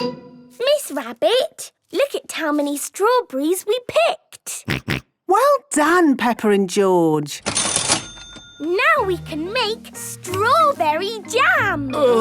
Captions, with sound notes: - Miss Rabbit, look at how many strawberries we picked! - Grunt, grunt. - Well done, Peppa and George! - (till rings) - Now we can make strawberry jam!